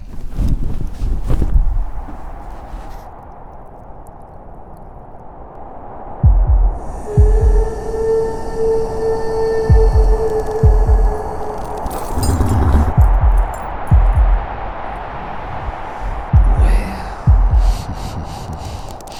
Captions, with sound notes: [wind blows] [haunting music] Well...heh heh heh.